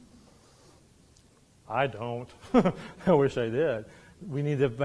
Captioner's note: laughs